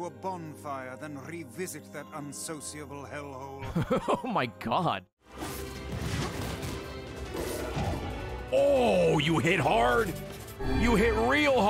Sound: laughs

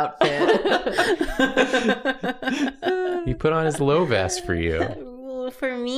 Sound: laughter

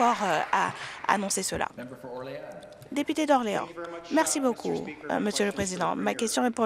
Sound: some Applause

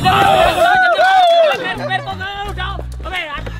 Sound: shout with excitement

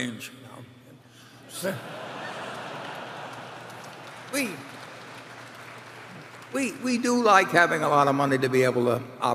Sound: laughter and applause

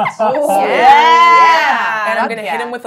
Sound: gamers cheering

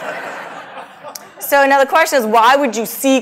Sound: laugh

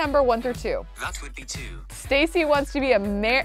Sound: voice On Phone

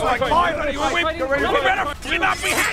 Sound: sching sching

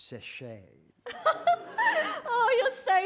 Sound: pan'er laughs

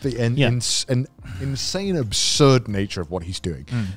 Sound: none

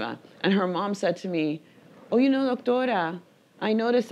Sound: speaking in foreign language

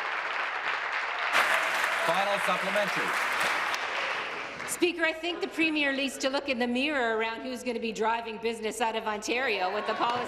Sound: applause

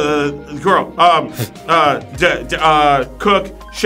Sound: stutters

